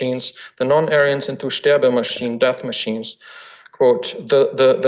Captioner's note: foreign language